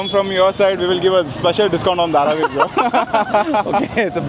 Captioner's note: laugh